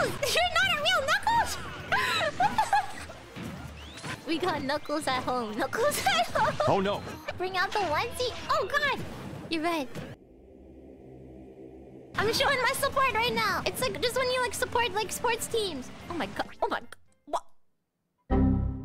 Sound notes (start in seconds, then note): 1.0 laughs; 10.1 ominous music